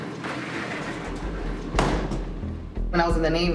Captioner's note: door bangs